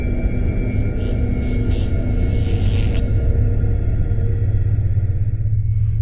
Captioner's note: electricity buzzing